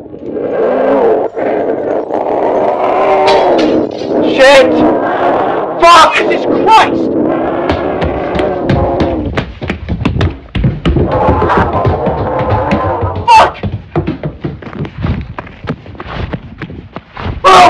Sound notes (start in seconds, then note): 0.0 unknown animal cry; 0.2 chains breaking; 7.2 footsteps running upstairs as unknown animal bellows; 14.9 footsteps running